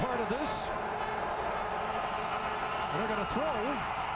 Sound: cheering/applause

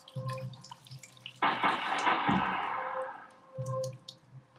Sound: sounds of water dripping

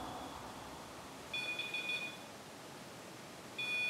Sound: beeping

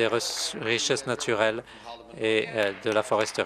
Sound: applause

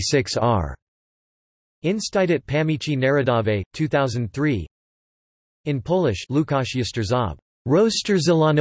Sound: in Polish

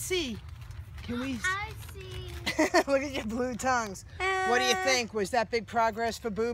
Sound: laughing

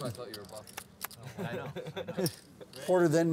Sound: laughing

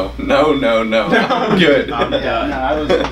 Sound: laughter

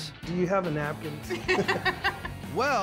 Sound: laughter

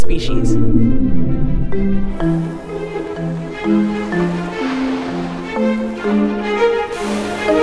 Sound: blue Whale call

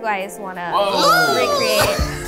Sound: squeals

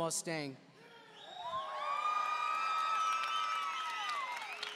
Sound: audience cheering

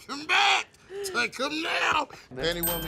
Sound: bell dings

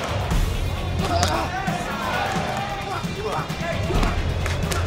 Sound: both grunting

